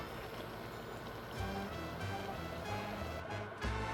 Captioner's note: simmering